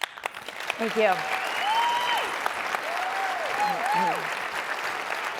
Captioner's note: applause and cheering